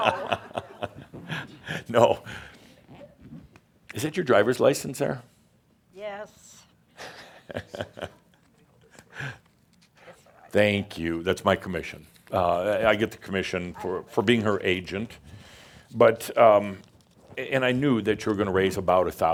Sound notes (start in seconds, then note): 0.0 Adamus chuckles; 7.0 Adamus chuckles